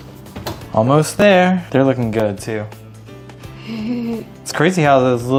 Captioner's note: giggles